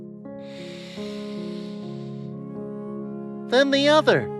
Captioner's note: breathes deeply